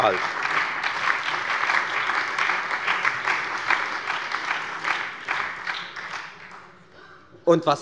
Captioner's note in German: Beifall bei der FDP, der SPD und bei Abgeordneten der LINKEN